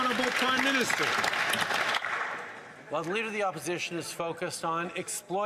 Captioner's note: some Applause